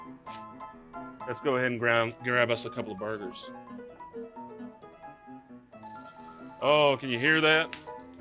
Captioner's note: meat sizzles